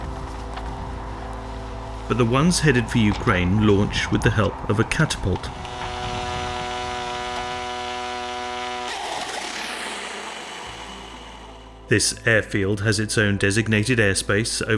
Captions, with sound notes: But the ones headed for Ukraine launch with the help of a catapult. (drone whirring) This airfield has its own designated airspace